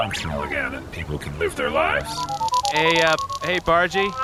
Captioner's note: beeping as comms link is established